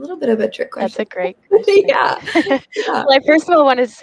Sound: laughs

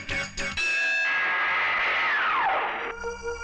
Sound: bell Tolling

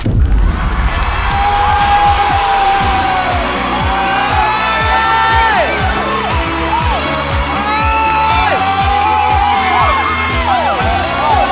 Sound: cheer and applause

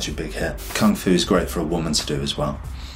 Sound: air whooshes

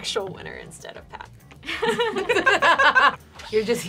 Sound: all laughing at expense

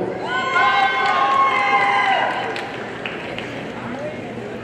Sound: audience cheering

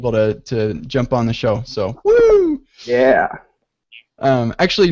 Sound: yells excitedly

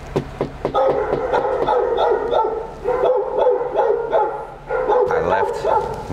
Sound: dog barks

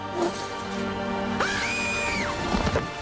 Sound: both screaming

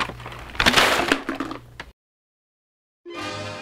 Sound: plastic cup banging

